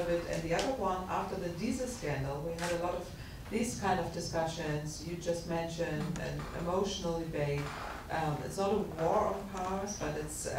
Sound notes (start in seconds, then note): none